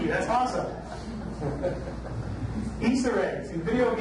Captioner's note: audience laughs